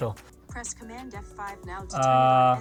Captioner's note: automated Voice